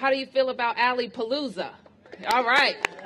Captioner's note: applause